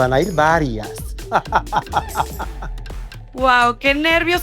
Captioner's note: evil laugh